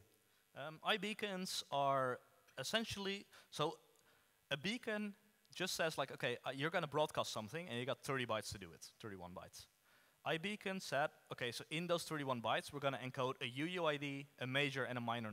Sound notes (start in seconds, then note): none